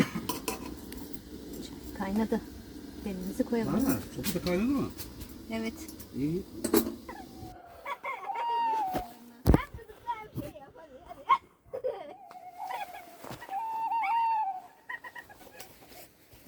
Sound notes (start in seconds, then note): 7.0 owl sounds; 7.8 laughing; 11.7 laughing; 12.3 owl sounds; 14.7 laughing